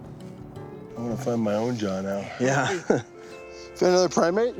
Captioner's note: chuckling